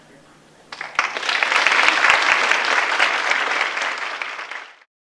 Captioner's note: audience applause